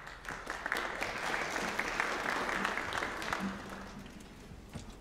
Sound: applause

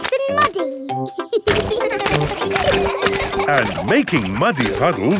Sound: children laughing

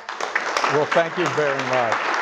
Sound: audience applauds

